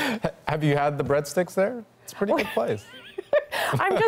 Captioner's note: laughter